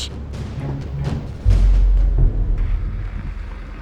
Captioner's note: engine growls